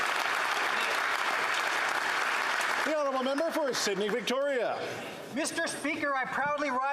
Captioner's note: applause